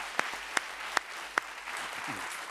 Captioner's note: applause